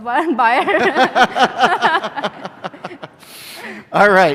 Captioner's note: laughter